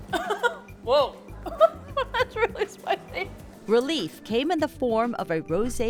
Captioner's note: laughs